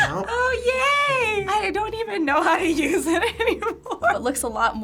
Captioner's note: laughs